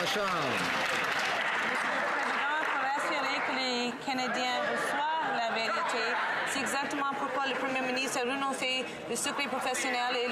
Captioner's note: some Applause